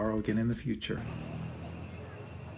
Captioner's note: city street sounds